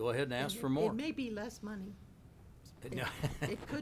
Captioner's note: chuckling